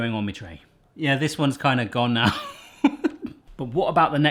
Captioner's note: laughs